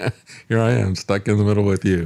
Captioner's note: laughs